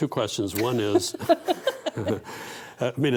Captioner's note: both laughing